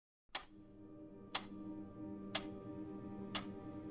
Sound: clock ticking

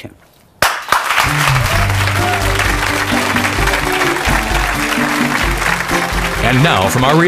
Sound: audience clapping; bright music

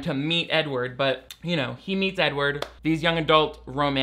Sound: claps hands once

